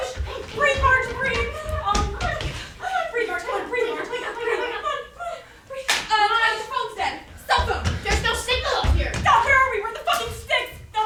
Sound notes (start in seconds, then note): 1.9 overlapping chatter